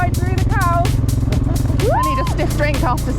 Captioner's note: farmer laughing